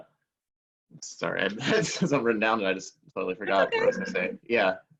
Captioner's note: laughing